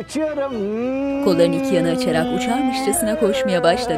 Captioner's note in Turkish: Şükrü uçak sesi